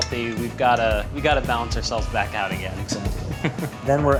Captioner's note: laughs